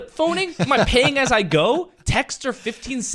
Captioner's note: laughs